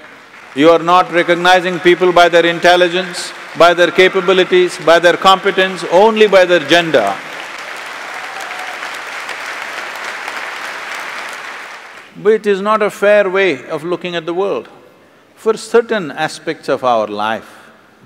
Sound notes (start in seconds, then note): 8.3 applauds